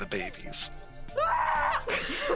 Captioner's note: screaming